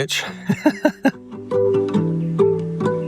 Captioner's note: laughing